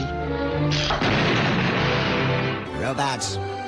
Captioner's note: bomb explodes